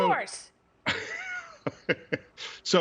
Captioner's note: laughter